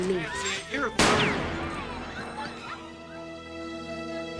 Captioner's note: gunshot